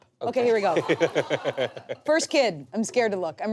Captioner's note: audience laughs